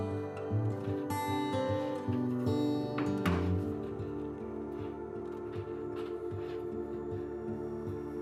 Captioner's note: papers shuffling